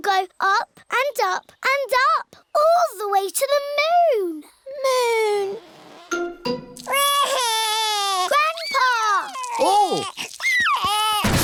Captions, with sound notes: it will go up and up and up, all the way to the moon! Moon! (WAILS) Grandpa! Oh!